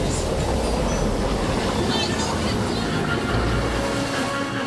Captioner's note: waves crashing; suspenseful music